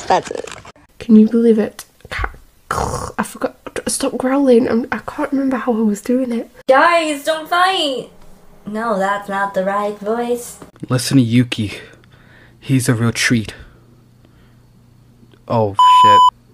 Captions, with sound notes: That's it. Can you believe it, A- (growls) I forgot- Stop growling! I can't remember how I was doing it. Guys, don't fight! No, that's not the right voice. Listen to Yuki, he's a real treat. Oh sh*t.